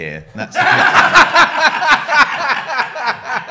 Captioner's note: laughs